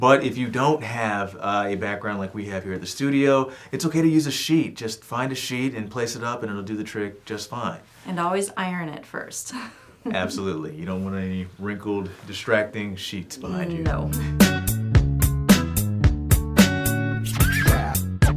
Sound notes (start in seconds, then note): 10.0 laughs; 13.4 upbeat music